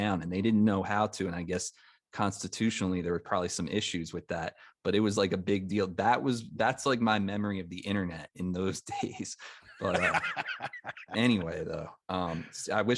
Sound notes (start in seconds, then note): 9.7 chuckles; 9.7 laughs